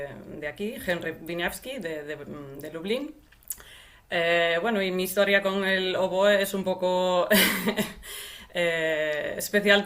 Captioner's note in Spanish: risas